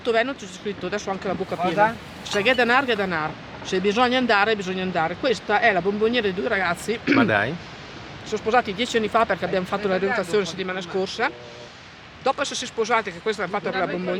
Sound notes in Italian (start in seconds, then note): 7.0 schiarire la voce